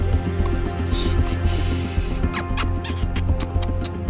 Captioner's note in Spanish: Sonidos de besos